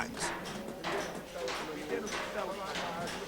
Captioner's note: speaking foreign language